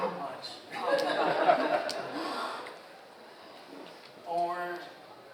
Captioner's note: audience laughs